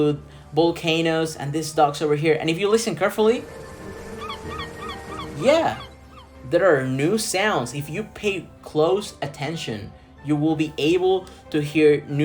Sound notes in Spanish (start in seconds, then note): 3.5 sonidos de patos